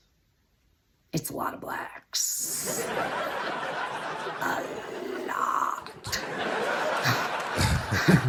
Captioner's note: audience laughter; Audience & Chappelle laughter